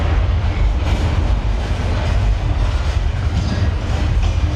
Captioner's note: building rumbles